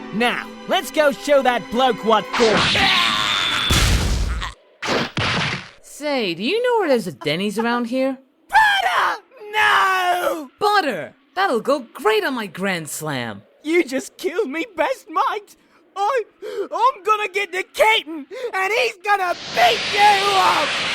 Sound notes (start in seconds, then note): 3.6 brutal impact; 16.3 tearful